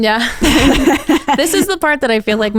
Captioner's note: both laughing